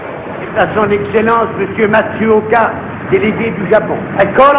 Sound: man speaking French

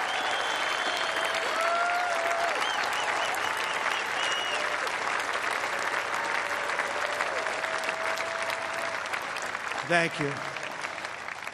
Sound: cheers and applause

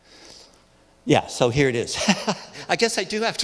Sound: laughs

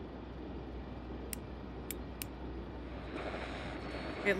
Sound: static

